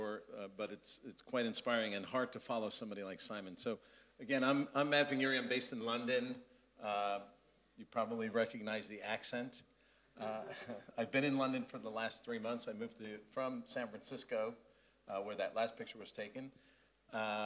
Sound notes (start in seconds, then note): 10.3 laugh